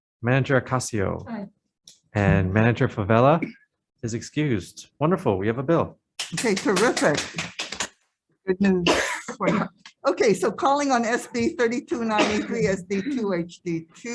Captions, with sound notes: - Manager Acasio? - Aye. - And manager Fevella is excused. Wonderful. We have a bill. (scattered clapping) - Okay. Terrific. Good news. Okay, so calling on SD 3293, SD2, HD2.